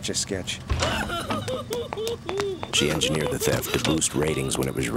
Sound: Mother Mirabelle sobbing

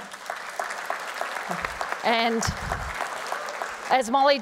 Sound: applause

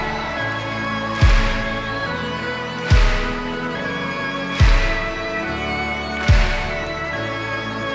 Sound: audience claps along to beat

